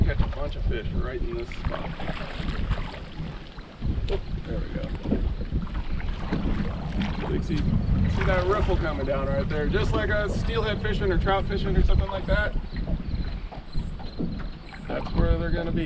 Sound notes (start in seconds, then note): 1.5 fish splashing